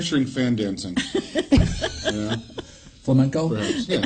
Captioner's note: laughs